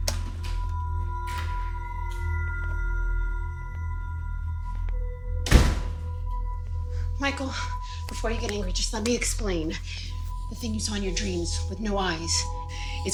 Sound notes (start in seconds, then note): 0.1 door latch clicking; 0.1 light eerie music; 5.4 door slamming